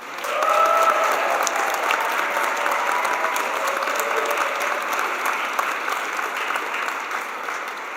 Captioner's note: cheers and applause